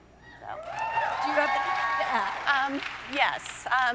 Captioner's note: audience cheering